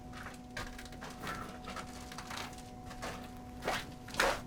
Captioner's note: crackling debris